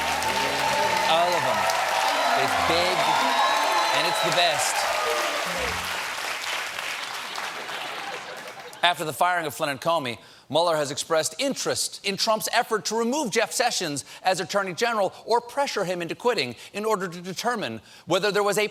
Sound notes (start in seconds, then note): 5.0 laughter